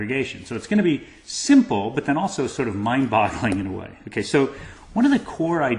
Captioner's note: laugh